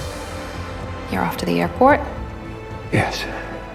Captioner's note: voiceover